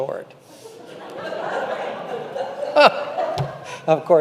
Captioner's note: congregation laughing